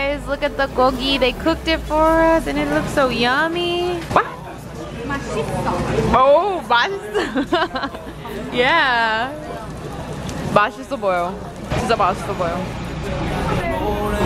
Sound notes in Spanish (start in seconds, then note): 5.1 habla en coreano; 6.1 responde en coreano; 7.0 se ríe; 10.5 hablando coreano